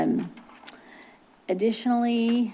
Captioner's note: clicks tongue